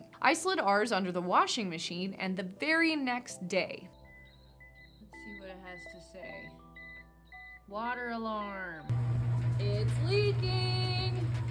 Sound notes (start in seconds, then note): 4.0 alarm beeping; 8.9 washing machine humming